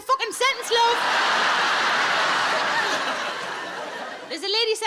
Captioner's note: audience laughing